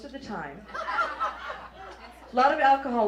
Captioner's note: laughter